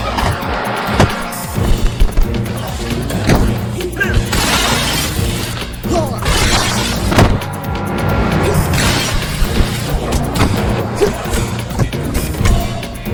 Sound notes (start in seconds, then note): 4.2 glass shattering